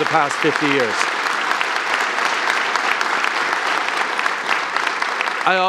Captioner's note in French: Applaudissements